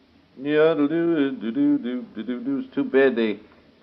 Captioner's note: humming